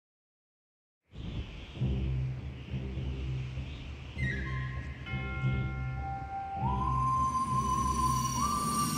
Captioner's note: wind blowing